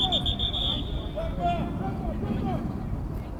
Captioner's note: whistle